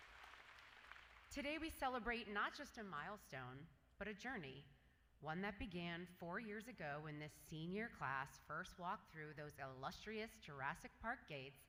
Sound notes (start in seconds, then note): 0.0 applause